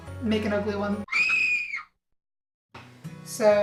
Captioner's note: high pitched scream